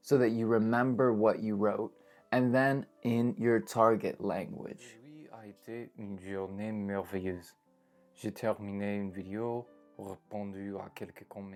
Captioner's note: reading in French